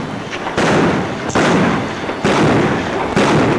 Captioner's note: guns bang